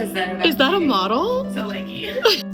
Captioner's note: hoots